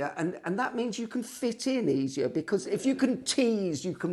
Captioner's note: none